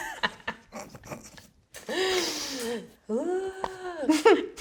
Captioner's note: both laughing